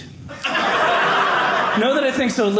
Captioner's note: audience laughing